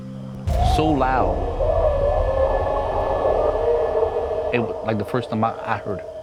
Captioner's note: Rougarou howling